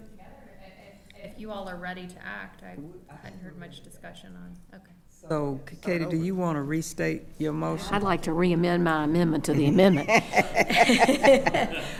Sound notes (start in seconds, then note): 4.2 speaking quietly; 9.7 attendees laughing